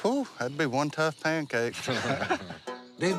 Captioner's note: laughter